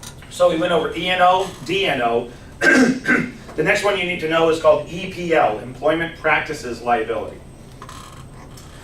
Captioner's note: clears throat